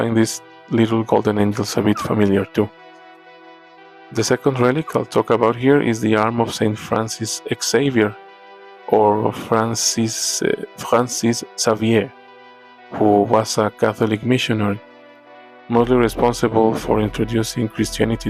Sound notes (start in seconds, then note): 9.2 attempt at french